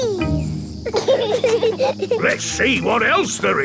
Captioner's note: bees buzzing